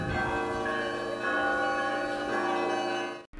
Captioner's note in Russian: колокольный звон